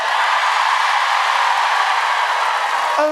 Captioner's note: cheering